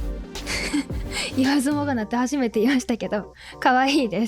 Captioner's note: laughs